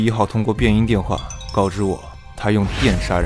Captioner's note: using a voice changer